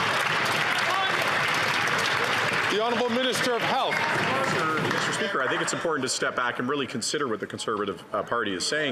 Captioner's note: some Applause